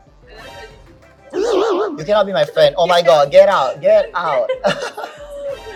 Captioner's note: gasps